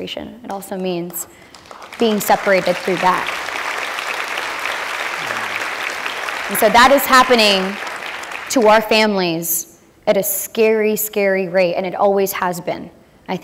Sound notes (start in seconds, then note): 4.1 applause